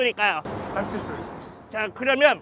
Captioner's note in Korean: 참새 소리